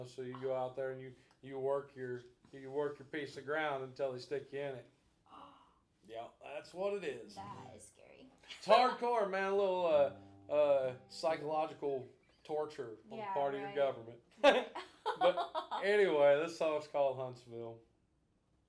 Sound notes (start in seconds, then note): 5.3 gasping; 14.4 both laughing